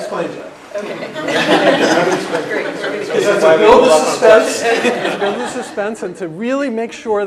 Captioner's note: laugh